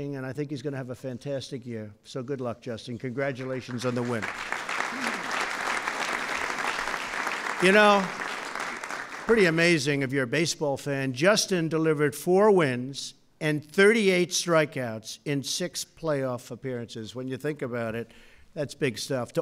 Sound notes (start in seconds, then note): 3.4 applause